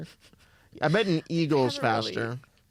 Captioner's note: laughs